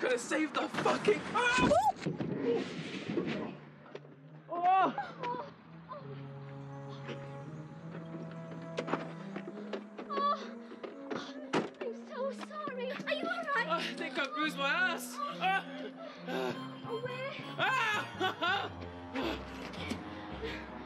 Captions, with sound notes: - Gotta save the fucking-- (yelling) (Ed groans) (Gemma gasps) - Oh! I'm so sorry, are you all right? - I think I bruised my ass. (groaning) - Oh, where? - Ah! (exclaiming)